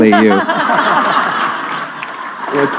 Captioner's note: laughter